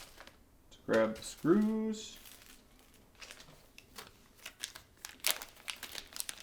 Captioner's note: packaging crinkling